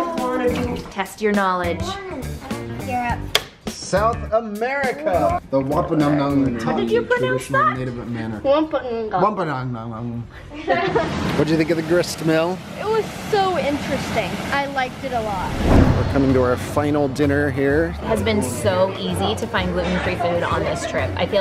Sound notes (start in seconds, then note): 3.4 board clicks; 10.5 kids laugh